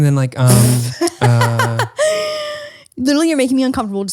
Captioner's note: laughs